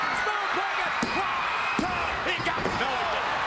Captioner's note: crowd cheers